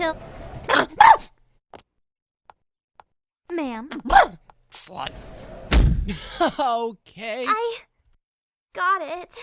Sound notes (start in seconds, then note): 5.5 door closes